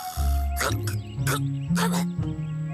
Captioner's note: coughs